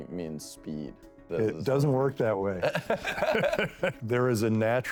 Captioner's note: laughter